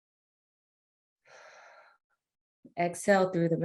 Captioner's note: exhales air